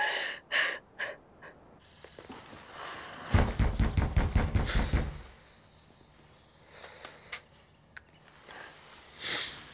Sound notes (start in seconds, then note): 3.3 knocks